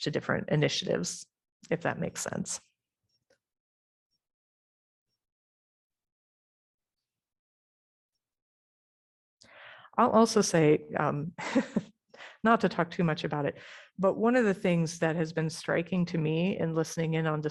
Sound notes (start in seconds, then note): 11.4 laughter